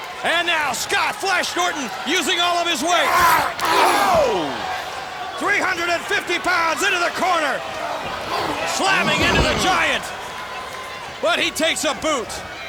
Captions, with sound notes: And now Scott "Flash" Norton using all of his weight. (wrestlers grunting) Whoa! 350 pounds into the corner. Slamming into The Giant. But he takes a boot.